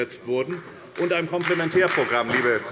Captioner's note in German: Beifall bei der SPD